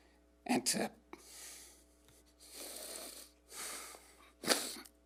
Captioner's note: sniffling